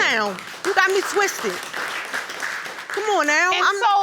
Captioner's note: audience applauding